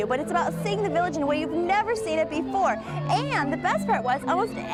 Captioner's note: none